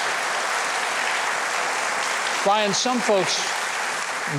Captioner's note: audience applauding